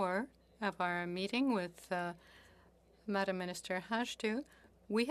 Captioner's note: speaking French